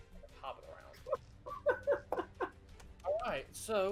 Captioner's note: laughs